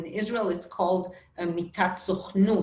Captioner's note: speaking Hebrew